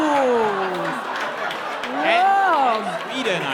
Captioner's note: laughter